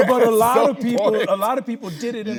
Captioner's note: laughing